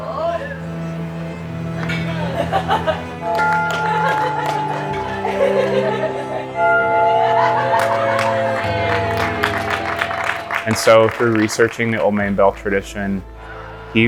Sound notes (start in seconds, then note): 2.1 person laughs softly; 3.2 bell tolls loudly; 5.5 people clapping and cheering softly